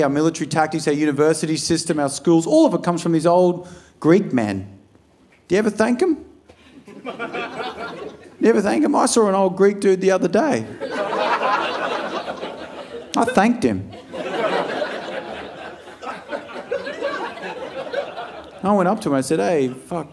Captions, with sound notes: our military tactics, our university system, our schools, all of it comes from these old Greek men. Do you ever thank them? You ever thank em? I saw an old Greek dude the other day. (audience laughing) I thanked him. (audience laughing) I went up to him, I said,